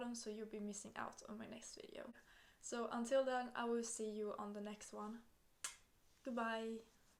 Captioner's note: kisses